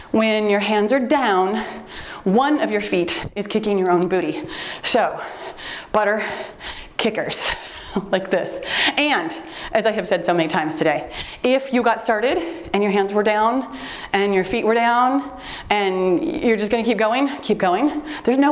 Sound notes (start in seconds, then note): 3.6 timer beeps; 7.6 laughs